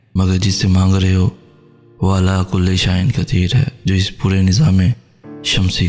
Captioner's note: Arabic